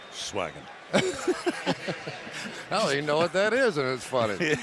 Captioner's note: laughter